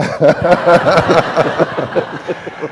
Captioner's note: laughter